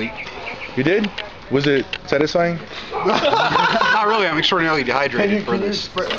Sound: laughter

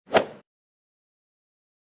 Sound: swoosh

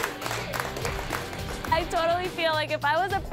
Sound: clapping

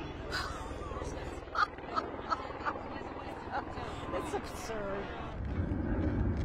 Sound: laughter

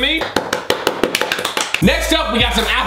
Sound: pounding and clapping

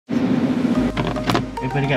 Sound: gentle upbeat music; car engine running; phone thuds

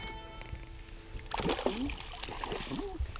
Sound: fish splashing

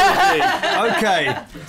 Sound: laughter

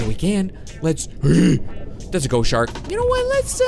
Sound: yells

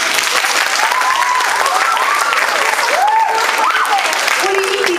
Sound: applause

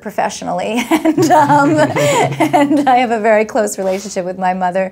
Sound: laughs

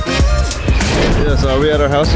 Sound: woosh

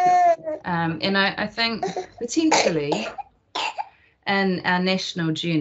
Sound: baby coughs

